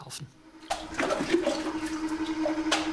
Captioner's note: splashing, whirring